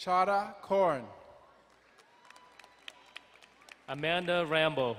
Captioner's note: crowd cheering and applauding